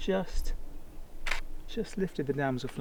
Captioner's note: camera shutter